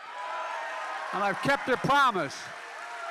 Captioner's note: applause